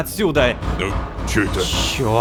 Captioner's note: knock on door